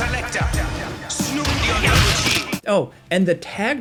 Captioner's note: blows thudding drown out vocalist